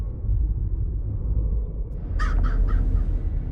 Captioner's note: bird cackling